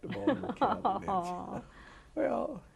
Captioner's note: laughter